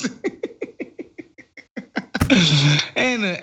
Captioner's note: laugh